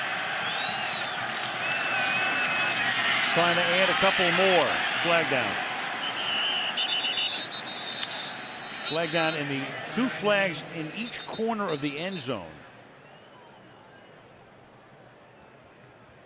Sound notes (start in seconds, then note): 6.0 whistle blows